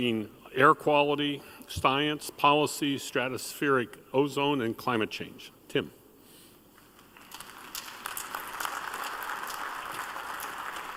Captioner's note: applause